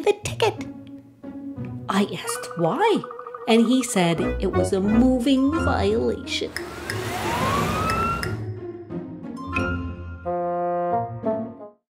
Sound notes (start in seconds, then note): 6.8 siren SFX